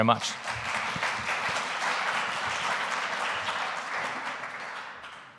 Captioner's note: audience applauding